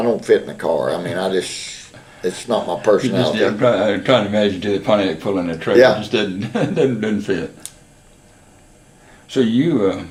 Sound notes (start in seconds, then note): 6.3 laughs